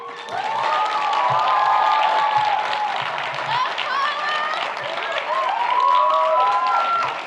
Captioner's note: audience applauds; audience cheers